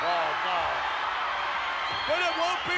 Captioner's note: audience cheers